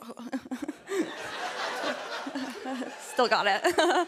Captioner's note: laughter